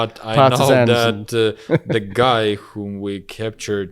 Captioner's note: laughs